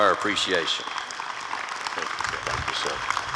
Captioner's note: applause